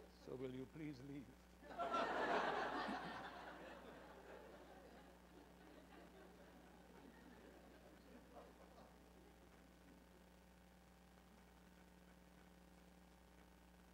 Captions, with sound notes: So will you please leave? [laughter]